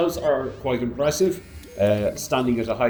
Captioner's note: none